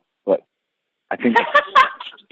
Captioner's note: laughter